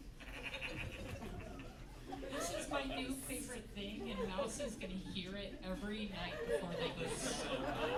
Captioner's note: "teeth" whispers